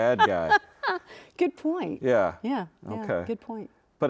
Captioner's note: laughs